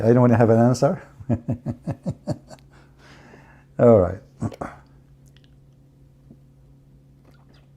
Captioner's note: Ketawa